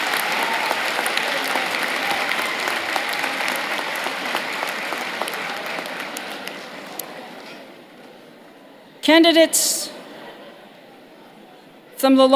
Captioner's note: cheers and applause